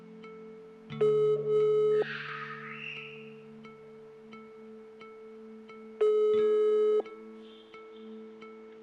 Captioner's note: phone ringing